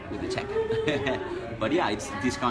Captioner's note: chuckling